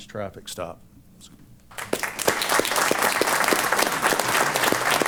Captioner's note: applause